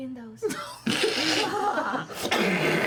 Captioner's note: laughter